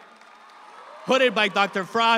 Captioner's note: audience applauds